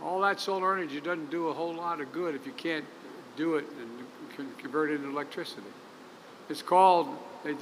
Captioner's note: none